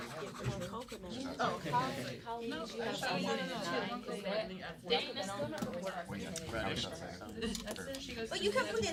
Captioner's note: students murmur